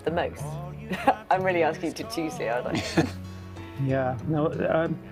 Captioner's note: laughs